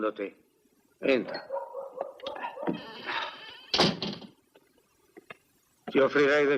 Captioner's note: door closes